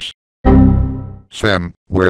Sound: Windows XP Critical Stop

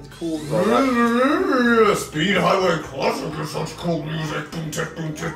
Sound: medibot makes mocking noises

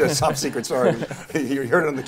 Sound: all laughing

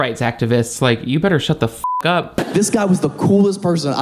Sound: beep

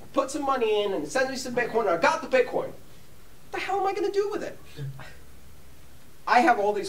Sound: laughter

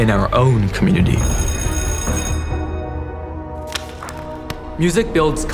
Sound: bell ringing

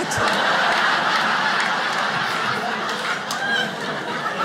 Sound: audience laughs

